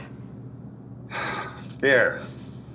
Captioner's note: sighs